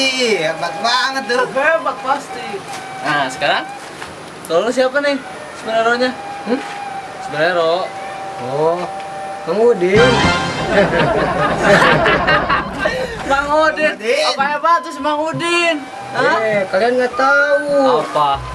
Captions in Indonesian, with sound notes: Hebat Pasti! Nah sekarang kalau kamu siapa nih superheronya? Hm? superhero... Oh Mang Udin (tertawa) Mang Udin? Apa hebatnya si Mang Udin? Yeee kalian nggak tahu, Mang Udin itu Superhero aku..